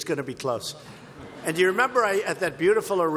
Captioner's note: laughter